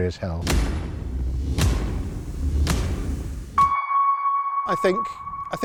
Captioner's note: sequential bangs followed by a tense ping